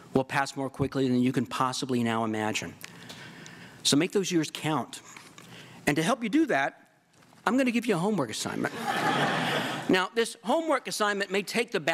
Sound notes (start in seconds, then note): 8.6 laughter